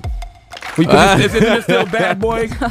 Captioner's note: laughing